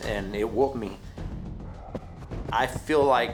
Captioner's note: breathing heavily